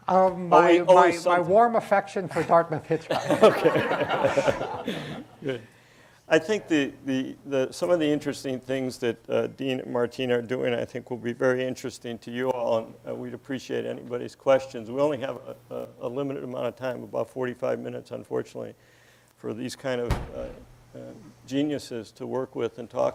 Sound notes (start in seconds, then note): 2.3 laughter